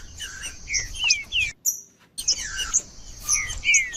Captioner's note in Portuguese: trinca ferro cantando